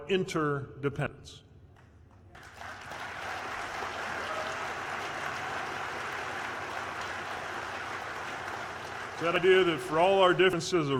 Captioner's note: applause